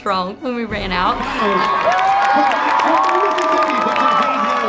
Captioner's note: cheering